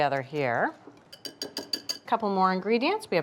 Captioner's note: whisk tapping